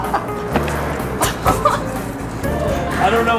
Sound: laughter offscreen; more laughter

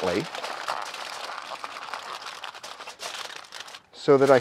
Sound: foil crinkling

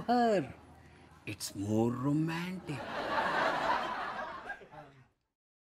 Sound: audience laughs

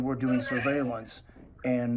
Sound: beep beep beep

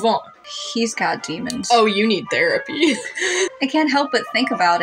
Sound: chuckle

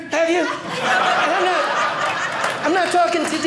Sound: audience laughing

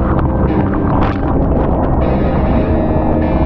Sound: none

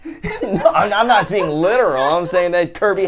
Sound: laughs

